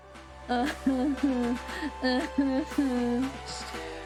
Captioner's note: fake crying